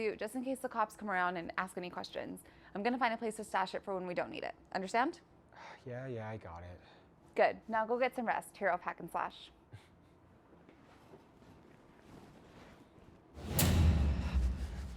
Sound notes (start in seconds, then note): 9.7 Barney chuckles; 13.4 dramatic music thumps